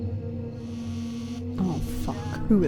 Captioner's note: phone rings